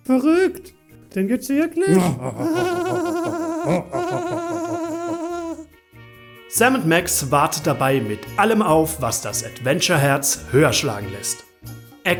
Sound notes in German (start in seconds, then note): 1.8 beide lachen